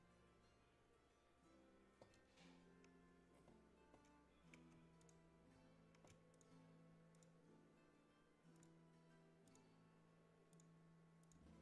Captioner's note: mouse and keyboard clicking